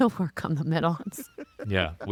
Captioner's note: laughing